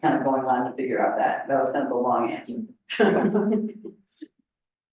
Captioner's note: laughs